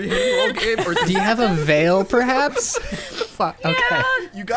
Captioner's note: pat